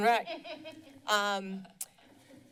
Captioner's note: laughing